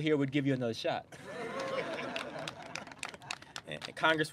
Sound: laughter

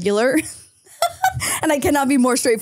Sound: laughs

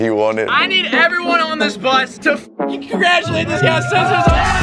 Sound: beep

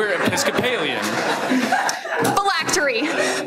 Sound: everyone laughs

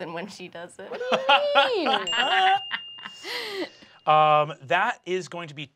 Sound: laughs

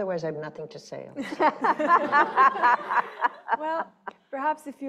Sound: laughing

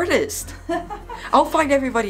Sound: laughs

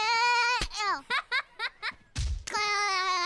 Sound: laughing; laughs

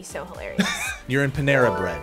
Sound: React laughs

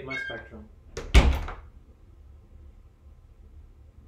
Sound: door closes

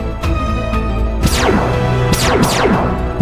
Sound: beacon shoot

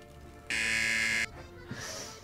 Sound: buzzer rings

